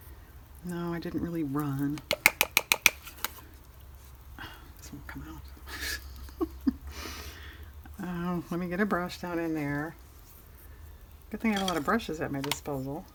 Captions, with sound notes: no i didn't really run this won't come out (laughs) let me get a brush down in there good thing i have a lot of brushes at my disposal